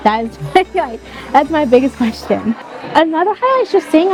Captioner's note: laughs